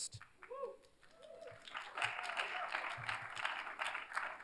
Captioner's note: cheers, applause